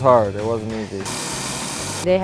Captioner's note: saw whirring